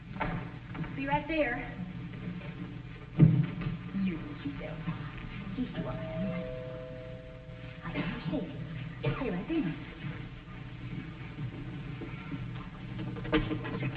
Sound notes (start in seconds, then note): 8.5 doorbell ringing